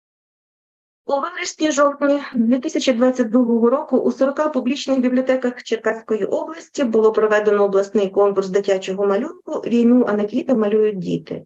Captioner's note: foreign Language Spoken